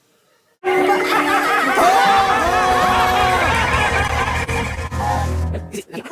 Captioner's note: laughter